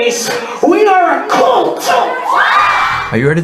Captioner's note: crowd cheers